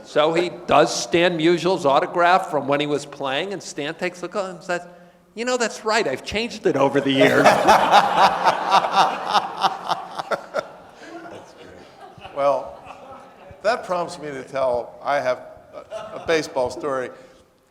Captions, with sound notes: So he does Stan Musial's autograph from when he was playing. And Stan takes look and says, "You know that's right I've changed it over the years." (audience laughing) (panelists laughing) - That's great. Well, that prompts me to tell, I have a baseball story,